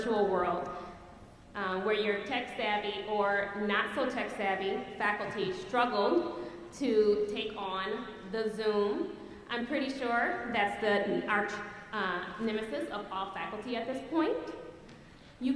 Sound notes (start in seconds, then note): none